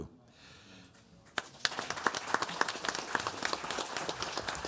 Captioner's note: audience applauds